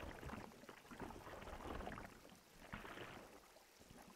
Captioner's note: water splashing